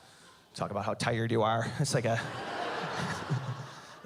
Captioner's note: laughs